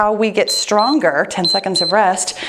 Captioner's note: timer beeps